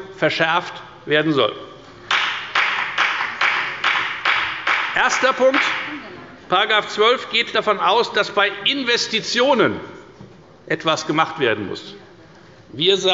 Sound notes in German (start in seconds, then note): 2.1 Beifall bei der FDP